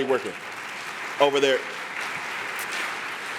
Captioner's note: applause